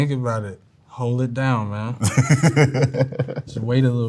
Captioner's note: laughs